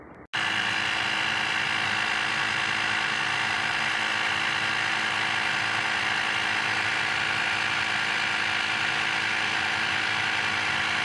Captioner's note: inflator running